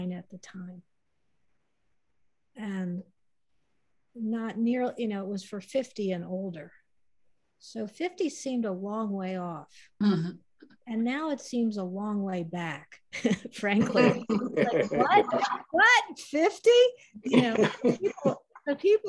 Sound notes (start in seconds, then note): 13.1 laughter